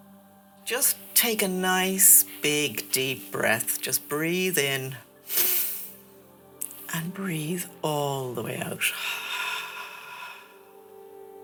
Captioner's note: inhale; exhale